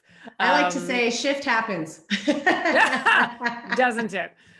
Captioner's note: laughing